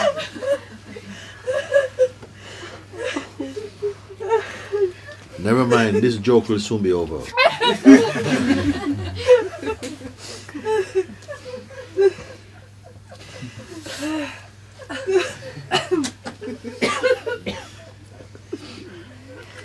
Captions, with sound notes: 'Never mind. This joke will soon be over.' [laughter] [uncontrollable laughter continues]